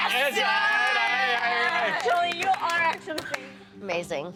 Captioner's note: cheering